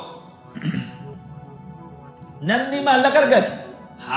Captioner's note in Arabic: تنحنُح